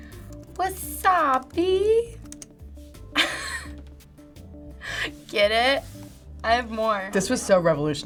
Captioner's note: chuckles